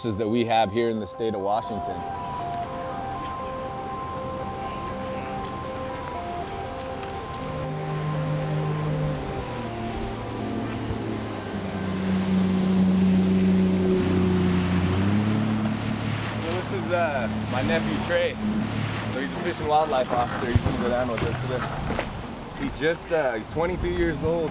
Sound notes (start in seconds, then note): 11.0 boat motor rumbling